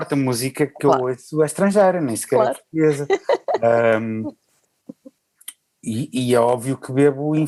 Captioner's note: laughs